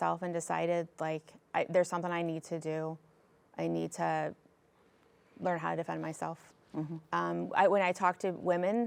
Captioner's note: none